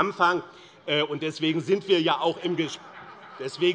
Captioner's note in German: Vereinzelt Lachen AfD